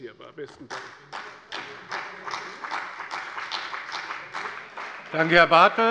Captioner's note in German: Beifall bei der CDU und dem BÜNDNIS 90/DIE GRÜNEN